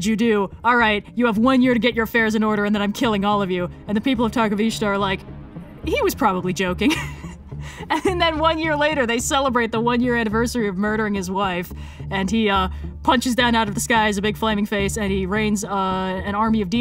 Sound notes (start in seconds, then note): 7.6 laughs